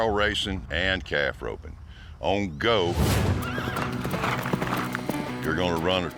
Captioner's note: horse neighs